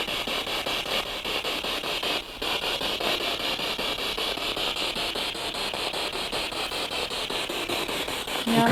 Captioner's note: sound of the Spirit Box in the background